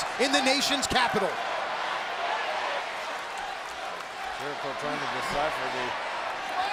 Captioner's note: applause